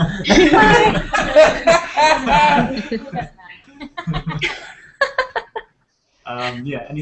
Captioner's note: laughter